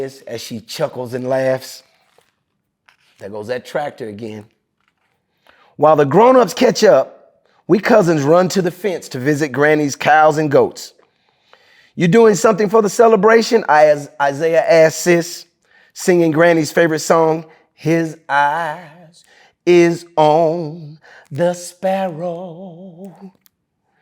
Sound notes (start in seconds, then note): 2.8 pages rustling